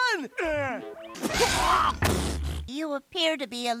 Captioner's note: sneezes